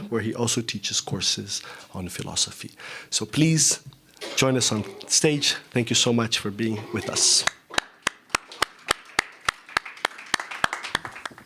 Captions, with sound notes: where he also teaches courses on philosophy. So please join us on stage. Thank you so much for being with us. [APPLAUSE]